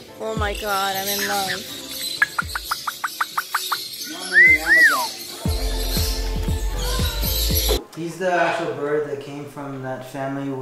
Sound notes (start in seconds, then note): 2.6 bird chirping and whistling